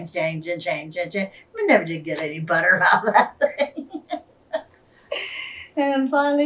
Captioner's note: laughs